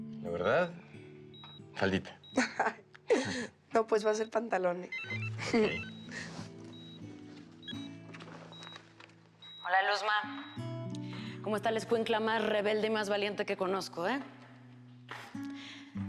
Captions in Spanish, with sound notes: - ¿LA VERDAD? FALDITA. [Risas] - NO, PUES VA A SER PANTALONES. [Suena el celular] - HOLA, LUZMA. ¿CÓMO ESTÁ LA ESCUINCLA MÁS REBELDE Y MÁS VALIENTE QUE CONOZCO, EH?